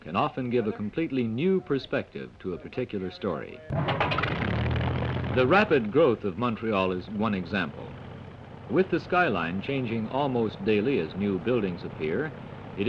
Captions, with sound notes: Aerial film can often give a completely new perspective to a particular story. [engine sputters to life] The rapid growth of Montréal is one example. With the skyline changing almost daily as new buildings appear.